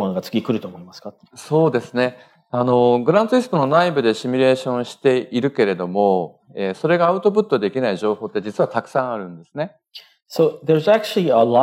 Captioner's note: speaking japanese